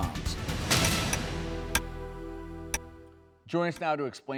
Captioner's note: clock ticks